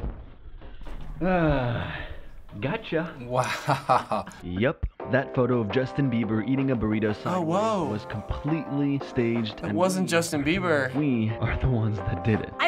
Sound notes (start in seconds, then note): 3.2 chuckles